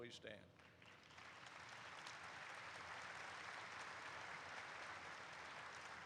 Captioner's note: audience applauds